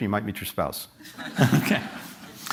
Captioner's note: laughter